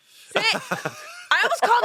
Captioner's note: laughs